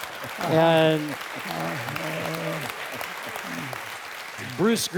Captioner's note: applause